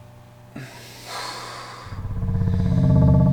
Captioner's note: breath